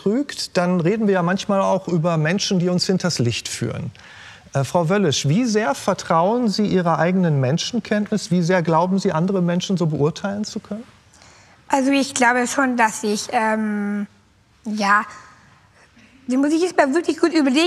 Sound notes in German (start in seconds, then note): none